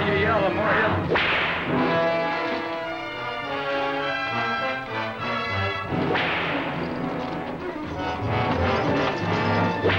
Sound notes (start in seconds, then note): 1.1 whip cracks; 6.0 whip cracks